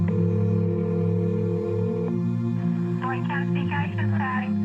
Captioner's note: dialing